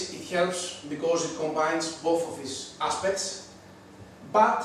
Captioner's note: none